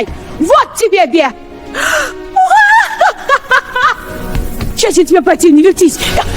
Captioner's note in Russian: крик; смех